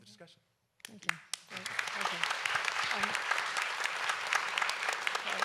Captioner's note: audience applauds